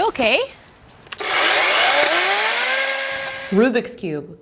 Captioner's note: chainsaw whirs